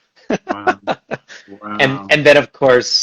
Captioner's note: laughs